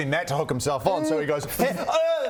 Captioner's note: hrh...ohh